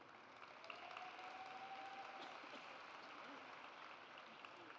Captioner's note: audience applauds